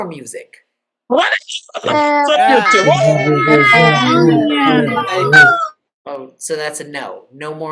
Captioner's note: cheering